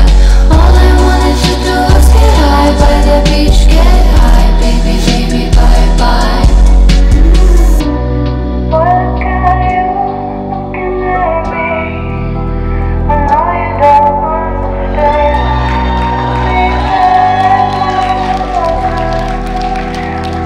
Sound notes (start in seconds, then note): 11.0 voice distorted, as if in a box; 15.0 audience cheering